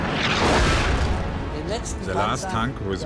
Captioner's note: tank turret firing; tank exploding